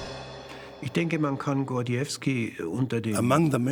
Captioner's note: speaking German